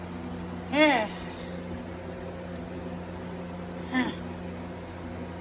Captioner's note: chuckles